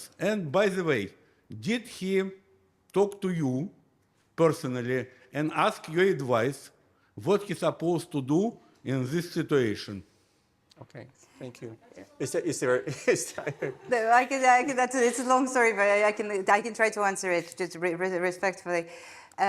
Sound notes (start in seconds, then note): 12.3 attendee heckling; 12.8 laughs